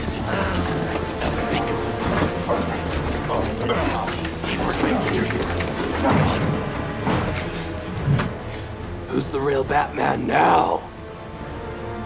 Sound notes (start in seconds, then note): 4.7 grunting